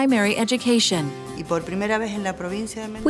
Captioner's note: speaking Spanish